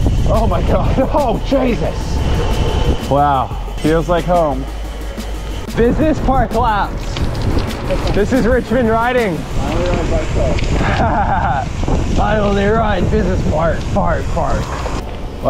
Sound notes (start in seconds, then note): 10.7 laughs